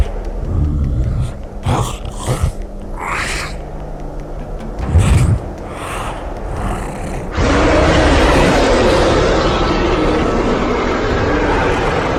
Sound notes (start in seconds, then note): 7.4 bear growling